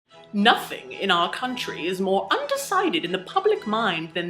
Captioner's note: English accent